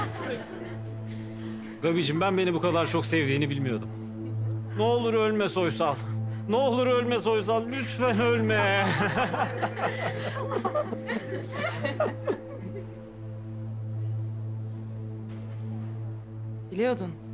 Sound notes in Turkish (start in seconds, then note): 8.0 Gülüyorlar